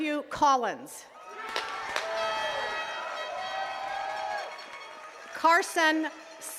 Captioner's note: attendees cheering and clapping